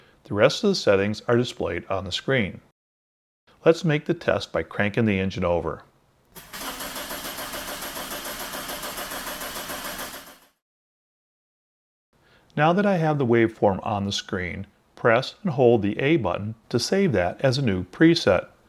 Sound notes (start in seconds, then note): 6.4 engine Cranking Sounds